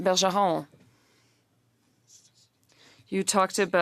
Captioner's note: speaking French